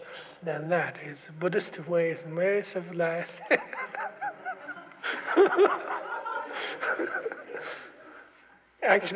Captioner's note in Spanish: se ríe, risas